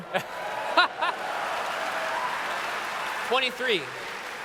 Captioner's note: laughter